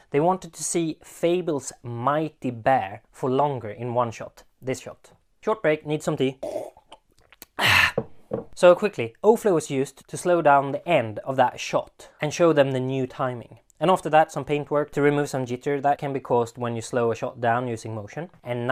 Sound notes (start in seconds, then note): 6.4 sipping tea